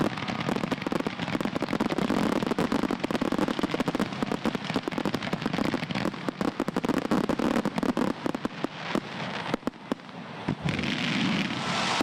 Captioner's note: fireworks popping